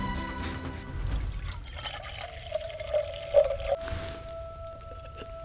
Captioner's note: pouring water